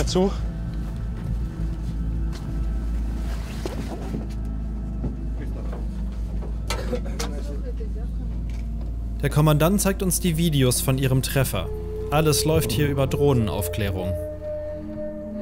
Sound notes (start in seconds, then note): 0.3 dark music; 5.3 metallic sounds, quiet voices